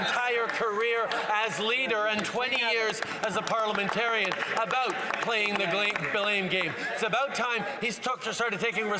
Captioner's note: some Applause